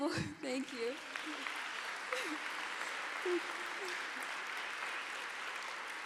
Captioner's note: audience applauds